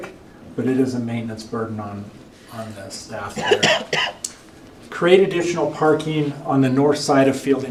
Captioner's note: cough